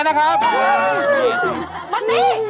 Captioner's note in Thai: เสียงร้อง